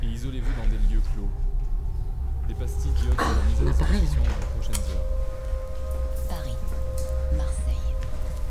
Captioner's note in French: sirène